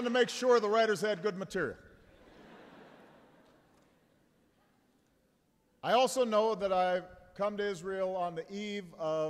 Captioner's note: laughter